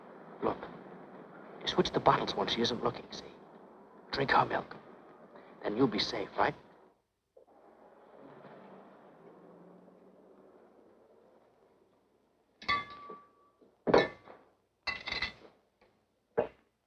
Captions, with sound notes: Look, switch the bottles when she isn't looking, see? Drink her milk. Then you'll be safe, right? (Bottles clanking)